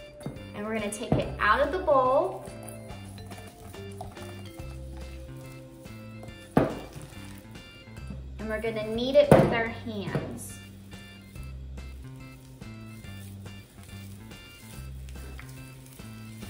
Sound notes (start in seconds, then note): 2.2 sticking and tapping noises; 11.9 sticky noises